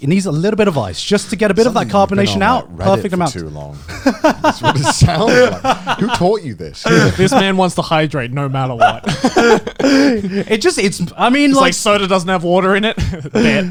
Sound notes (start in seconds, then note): 3.7 laughs; 8.7 laughs